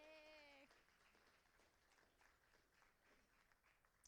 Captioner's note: applauding